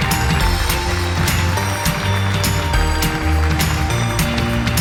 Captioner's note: applause